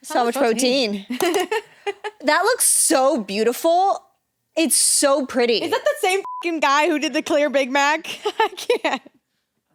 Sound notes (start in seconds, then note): 1.1 laughs; 6.2 beep